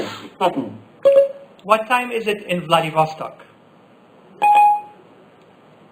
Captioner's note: Siri beep